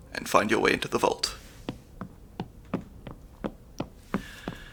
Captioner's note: footsteps